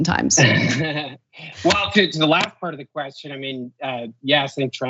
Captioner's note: laugh